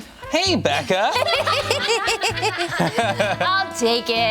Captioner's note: everyone laughs